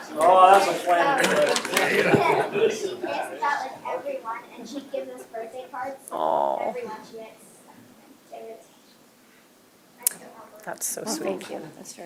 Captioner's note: laughter